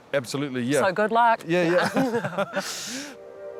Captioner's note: laughs; serene music